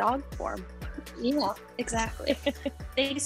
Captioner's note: chuckles